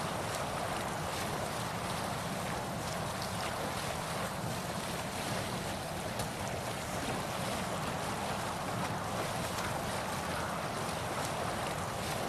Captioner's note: water rushing